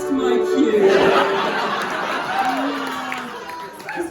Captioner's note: audience laughing